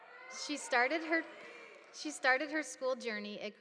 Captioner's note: students shouting